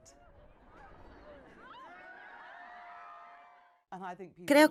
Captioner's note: crowd cheering